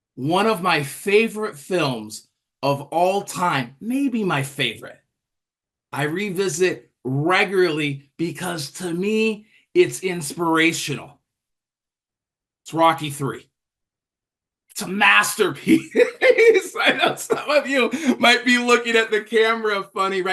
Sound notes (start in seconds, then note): 15.6 laughter